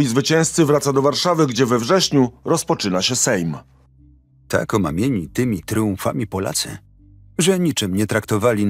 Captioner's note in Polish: Lektor